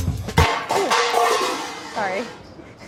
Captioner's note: upbeat music; pots falling; laughs